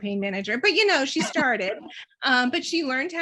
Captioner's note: chuckles